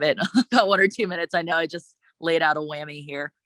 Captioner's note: chuckles